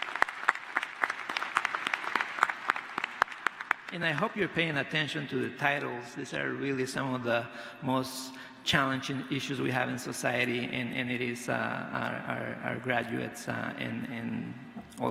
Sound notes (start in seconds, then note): 1.9 applause